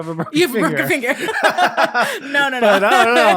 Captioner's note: both laughing